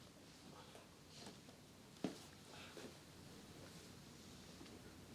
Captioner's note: footsteps rustling